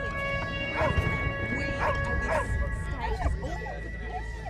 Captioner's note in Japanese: しゃべり声; 犬の吠え声